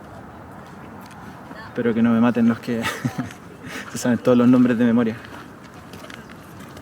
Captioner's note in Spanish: risas